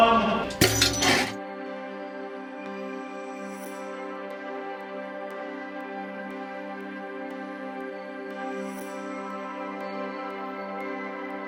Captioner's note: clank sound then music